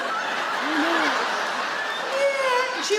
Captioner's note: audience laugh